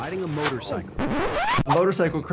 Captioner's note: record scratching